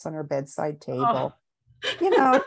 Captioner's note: laughs